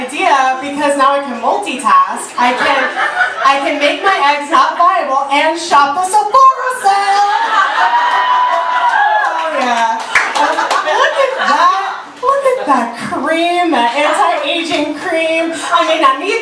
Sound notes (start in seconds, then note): 8.0 audience laughter